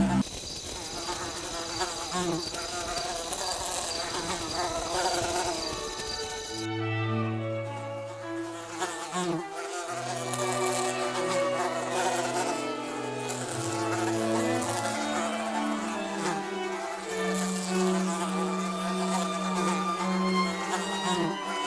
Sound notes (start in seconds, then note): 0.0 fly Buzzing Sound